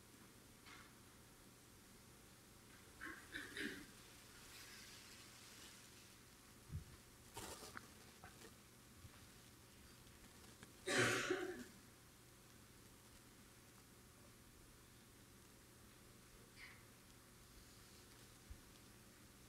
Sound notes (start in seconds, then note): 3.0 audience member clearing their throat; 10.9 audience member coughing